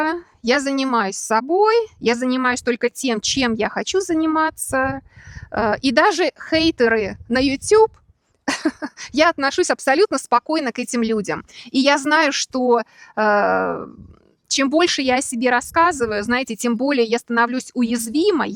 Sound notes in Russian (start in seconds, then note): 8.4 смех